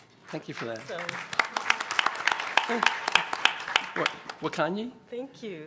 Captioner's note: applause